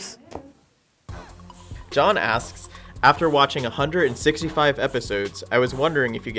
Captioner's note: voiceover